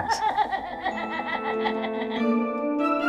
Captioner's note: more upsetting bone laughter